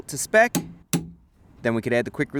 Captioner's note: torque wrench click